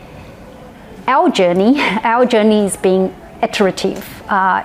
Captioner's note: laughs